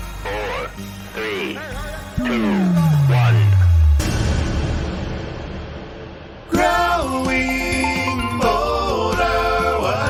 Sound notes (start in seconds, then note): 4.3 dramatic rocket explosion